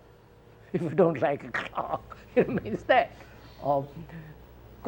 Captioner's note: laughs